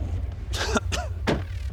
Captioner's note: non-Coronavirus Cough